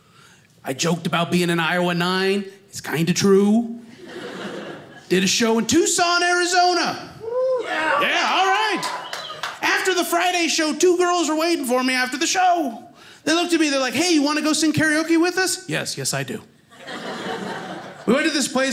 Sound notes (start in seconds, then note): 3.9 audience laughing; 7.2 audience cheers; 16.7 audience laughing